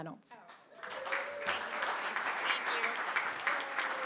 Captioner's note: crowd clapping